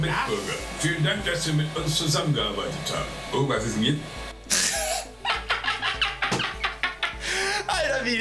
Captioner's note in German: gelächter